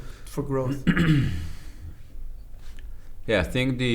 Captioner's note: clears throat